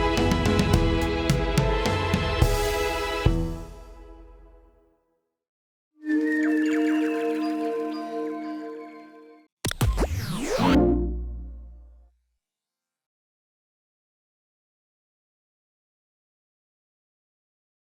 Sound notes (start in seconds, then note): 6.2 birdsong, mystical chiming; 9.6 static buzzes, whooshing, warm tone